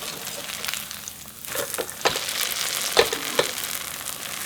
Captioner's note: sizzling